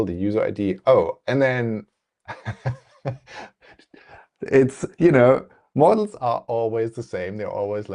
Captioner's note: laughs